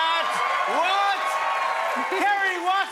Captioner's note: cheers and applause